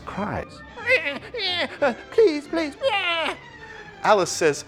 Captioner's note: imitates sobs; imitates whimpering